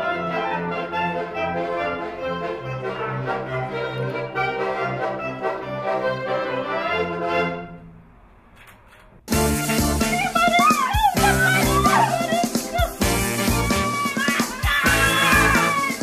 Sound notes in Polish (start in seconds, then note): 10.2 krzyki dziewcząt